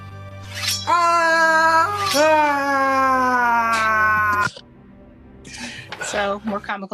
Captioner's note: metal scraping; man yelling